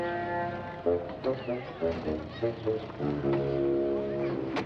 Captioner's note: crowd chattering